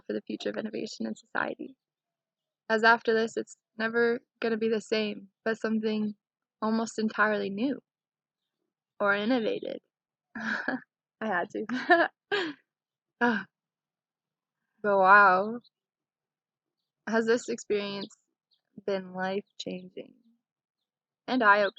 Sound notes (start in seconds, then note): 11.6 laughing